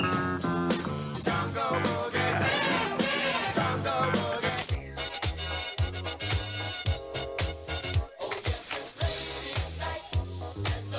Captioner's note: whistle